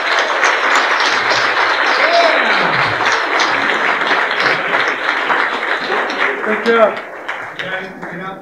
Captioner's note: applause